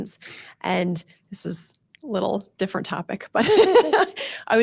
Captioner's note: laughs